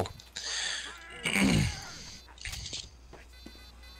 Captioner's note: clears throat again, louder this time